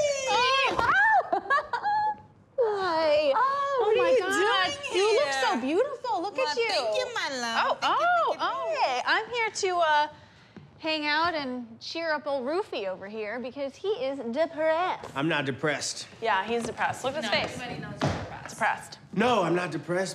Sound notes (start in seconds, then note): 0.8 laughs